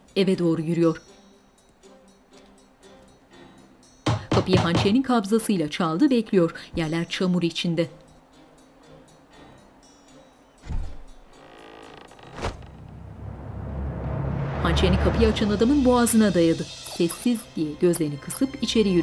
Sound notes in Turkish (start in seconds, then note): 4.0 Kapı vurulma sesi; 7.4 Müzik - Gerilim